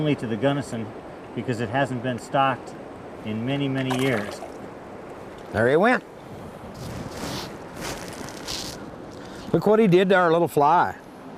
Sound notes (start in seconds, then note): 3.8 splash